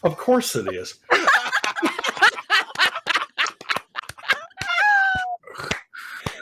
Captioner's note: laughing